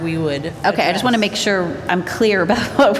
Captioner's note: laughter